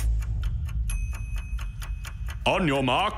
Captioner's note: clock ticking